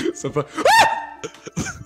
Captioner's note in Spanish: grito